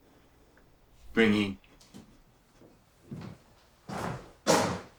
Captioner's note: soldier speaking German